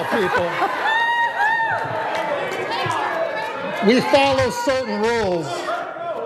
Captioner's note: applause